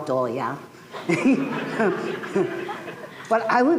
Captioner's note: laughter